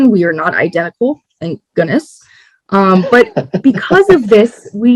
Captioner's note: laughs